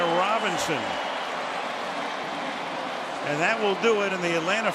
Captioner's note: cheering